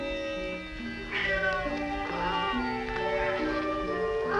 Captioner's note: cat Meowing